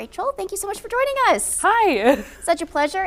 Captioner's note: laughing